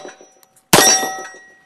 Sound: bang

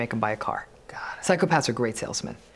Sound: whispered

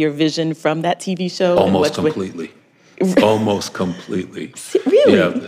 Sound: laughs

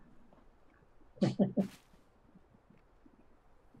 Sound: chuckles

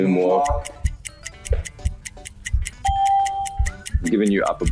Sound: clock ticking; ding

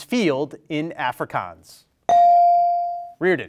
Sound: bell rings

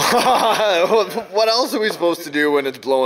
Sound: laughs

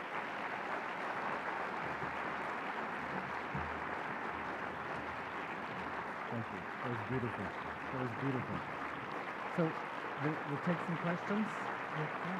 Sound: applause

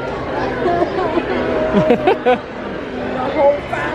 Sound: fake cries; laughs

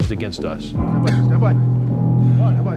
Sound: coughing

